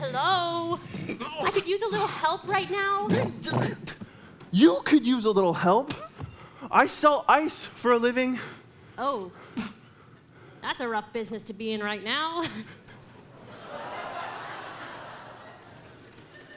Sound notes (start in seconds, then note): 3.5 Sven snorting; 13.3 audience laughing